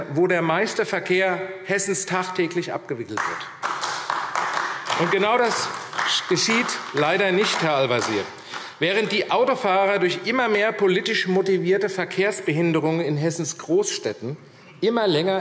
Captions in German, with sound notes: wo in Hessen der meiste Verkehr tagtäglich abgewickelt wird? [Beifall AfD] Herr Al-Wazir, genau das geschieht leider nicht. Während die Autofahrer durch immer mehr politisch motivierte Verkehrsbehinderungen in Hessens Großstädten immer länger